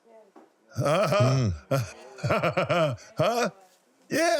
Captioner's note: laughs